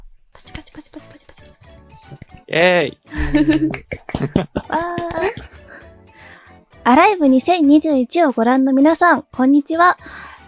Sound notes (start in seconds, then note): 0.3 applause; 3.1 laughs